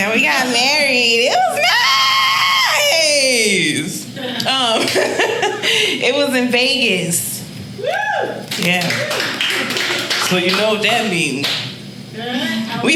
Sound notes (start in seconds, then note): 4.3 laughing; 8.4 audience applauding